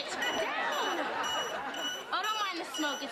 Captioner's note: beeping